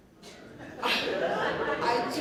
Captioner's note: laughter